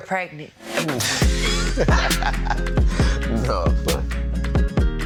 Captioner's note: couple laughing